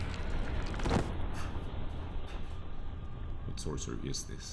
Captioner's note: man thuds